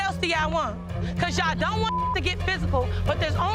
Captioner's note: beeps